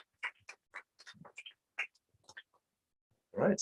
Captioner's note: applause